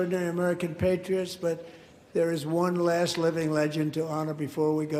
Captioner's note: applause